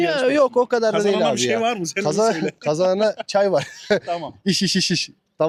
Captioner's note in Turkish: kahkaha